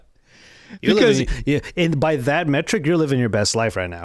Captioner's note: laughing